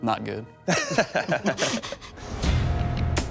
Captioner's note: laughter